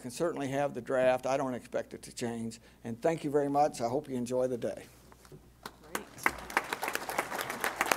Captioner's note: applause